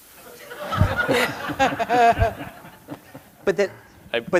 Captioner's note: audience laughing